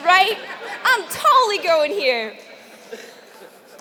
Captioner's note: laugh